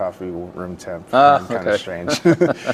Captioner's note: laugh